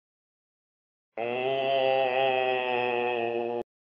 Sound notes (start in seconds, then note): 1.2 sound of ghost moan